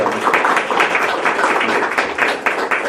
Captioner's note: potlesk